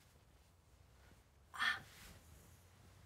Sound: groans

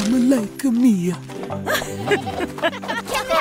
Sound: laughing

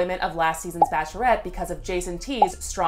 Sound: bubble popping

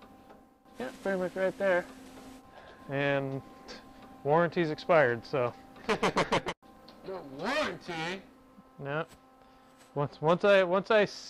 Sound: laughs

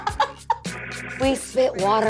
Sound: laughing

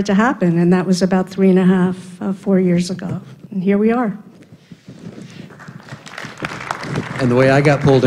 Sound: applause

